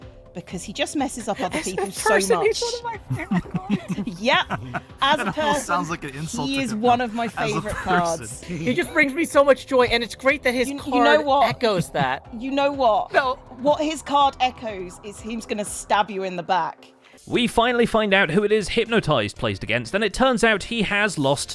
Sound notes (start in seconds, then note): 5.1 laughs